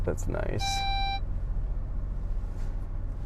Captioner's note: beeping